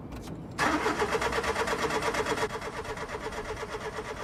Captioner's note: engine sputtering